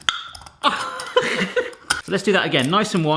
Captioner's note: laughs